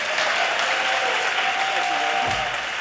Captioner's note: audience cheers and applause